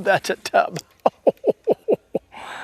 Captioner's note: laughter